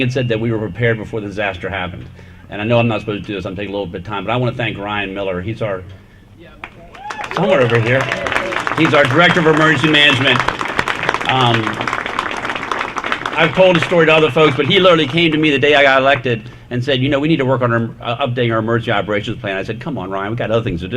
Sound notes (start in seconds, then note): 6.6 applause